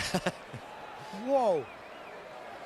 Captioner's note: laughs